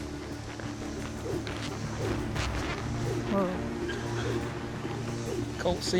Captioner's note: rope whirling